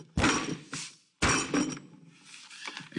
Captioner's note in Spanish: Puñetazos